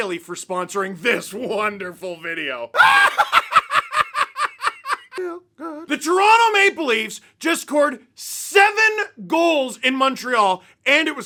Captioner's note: laughter